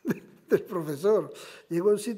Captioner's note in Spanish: Ríe